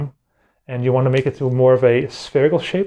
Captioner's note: both wrists snap